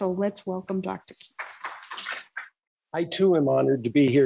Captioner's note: applause